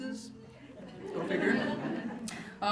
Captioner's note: laughter